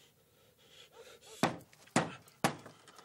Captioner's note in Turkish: Kapıya vuruyor